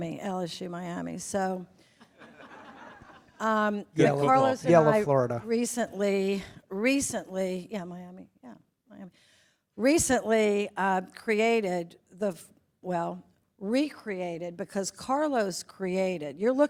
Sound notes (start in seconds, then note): 2.2 attendees chuckle